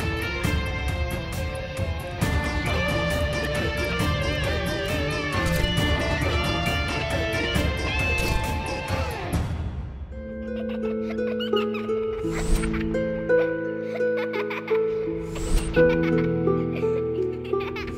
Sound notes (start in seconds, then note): 10.4 Giggling